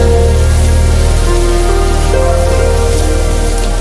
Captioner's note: food sizzling